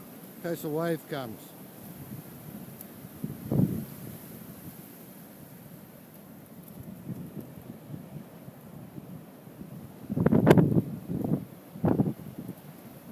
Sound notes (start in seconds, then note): 3.2 wind gusting